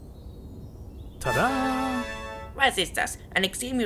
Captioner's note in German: Tada Sound